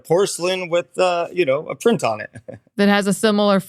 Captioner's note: chuckles